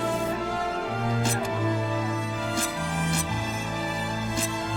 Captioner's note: knives squelching